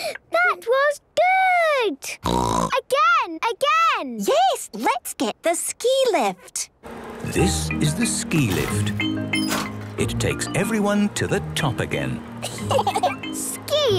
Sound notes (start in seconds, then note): 1.7 snorting; 12.4 laughter